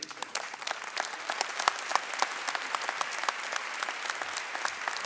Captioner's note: audience applauding